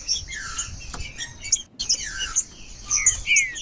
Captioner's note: trinca ferro cantando